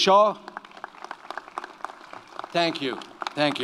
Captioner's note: audience applauds